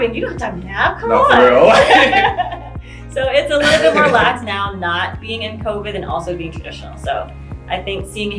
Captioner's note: laughing